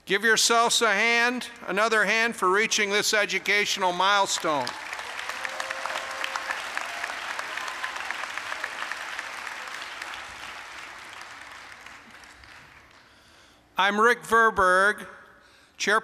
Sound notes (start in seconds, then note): 4.2 applause